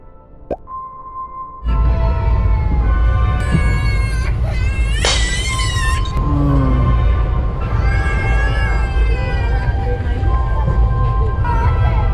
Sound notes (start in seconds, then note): 3.4 the baby woke up with a cry